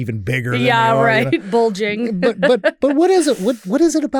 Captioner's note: laughs